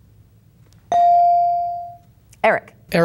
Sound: bell dinging

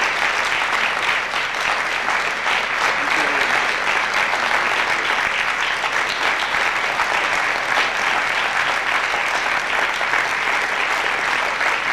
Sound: applause

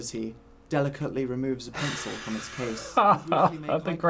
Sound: laughs

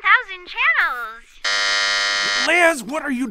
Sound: buzzer sounds

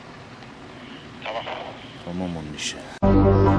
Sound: radio

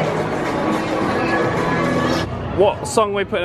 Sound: monitor screen trills

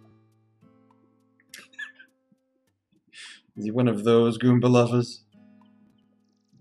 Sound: chuckles

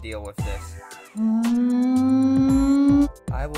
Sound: dinosaur wail

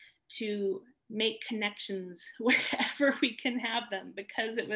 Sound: laughter

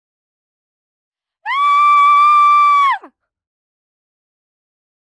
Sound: sound of scream

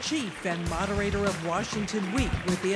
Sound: cheers & applause

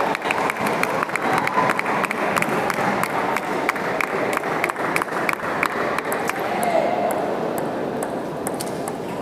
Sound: applause

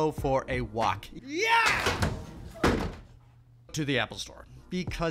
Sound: chair banging

